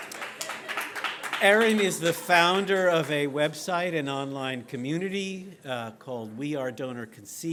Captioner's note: audience cheers